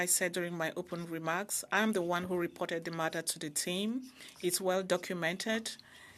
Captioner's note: speaking French